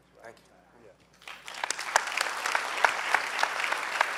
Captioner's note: clapping